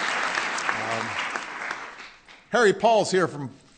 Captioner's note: applause